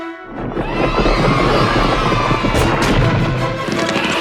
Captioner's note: cheering